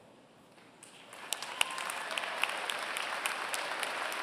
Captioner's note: applause